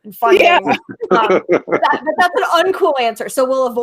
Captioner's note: laughing